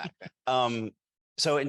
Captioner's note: group chuckling